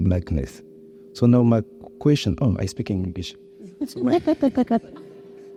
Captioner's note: chuckles